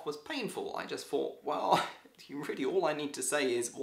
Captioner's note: scoffing